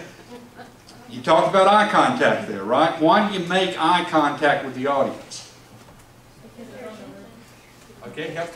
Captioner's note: audience mumbles